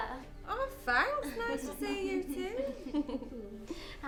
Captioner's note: all chuckling